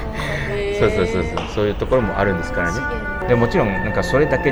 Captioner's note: surprised